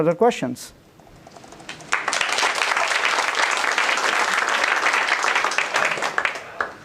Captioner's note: applause